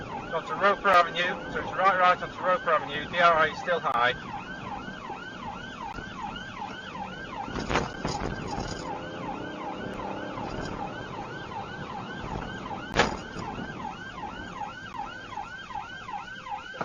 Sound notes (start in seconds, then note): 7.5 car clunks over speedbumps; 12.9 car clunks over speedbump